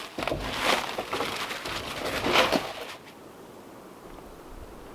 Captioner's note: log crunching; wind howling